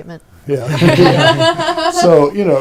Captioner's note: laughing